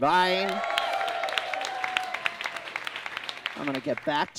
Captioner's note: audience claps and cheers